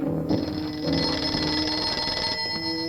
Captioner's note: phone ringing